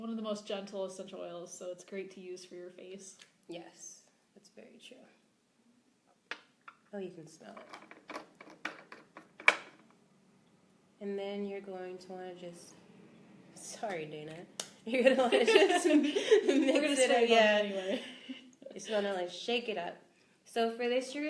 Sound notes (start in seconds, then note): 8.1 both laugh